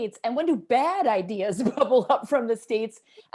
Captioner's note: laughter